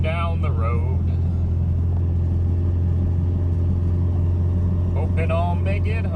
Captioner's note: engine noise